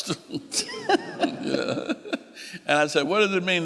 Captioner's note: laughing